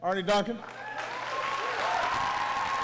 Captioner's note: applause